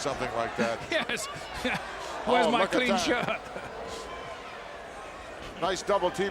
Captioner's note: laugh